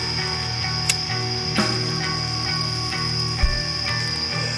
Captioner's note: lighter clicks